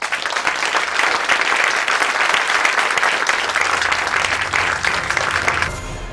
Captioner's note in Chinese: Applause; 掌聲